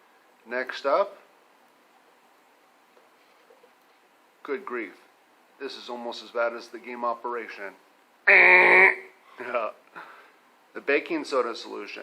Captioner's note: buzzer sound